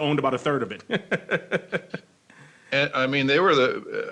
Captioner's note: laughing